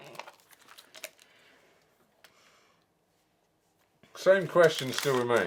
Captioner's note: rustling